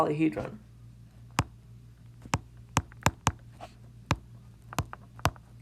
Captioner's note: tapping